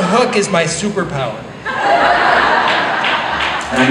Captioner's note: laughter